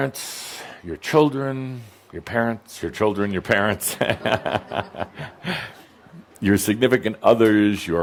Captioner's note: chuckling